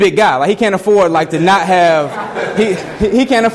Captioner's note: students laughing